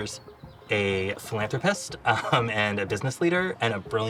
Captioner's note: laughs